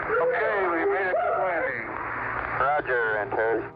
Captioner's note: people cheering